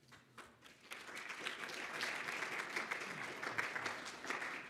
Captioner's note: applause